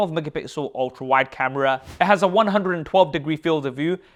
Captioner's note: air whooshes